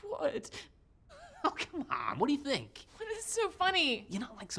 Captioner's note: laughs